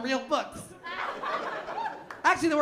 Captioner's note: laughter